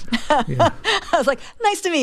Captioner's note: laughter